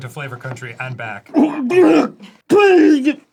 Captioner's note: spits